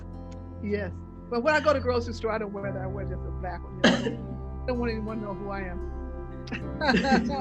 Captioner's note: laughs